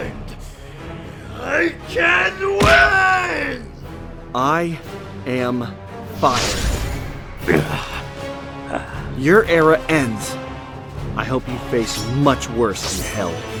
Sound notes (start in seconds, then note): 7.5 grunts